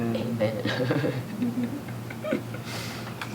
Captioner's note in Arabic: يضحك